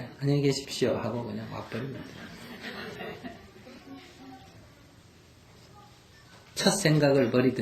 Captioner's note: audience Laughter